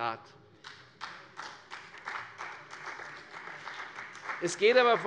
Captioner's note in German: Beifall bei der CDU, dem BÜNDNIS 90/DIE GRÜNEN und der FDP